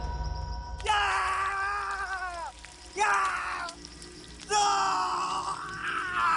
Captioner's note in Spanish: Gritos